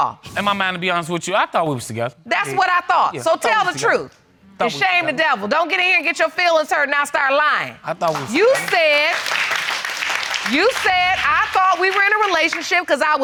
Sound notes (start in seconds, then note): 8.0 audience applauding